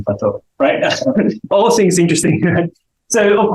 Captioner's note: chuckles